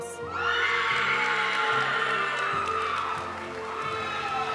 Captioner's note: audience cheering and applauding; graduation music